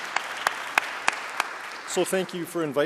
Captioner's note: audience applauding